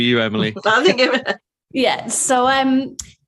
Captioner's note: laughing